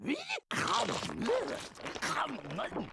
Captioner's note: chomping